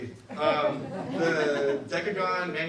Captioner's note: audience laughs